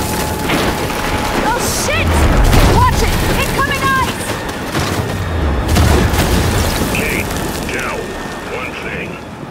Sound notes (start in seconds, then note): 0.0 wind howling; 6.6 wind howling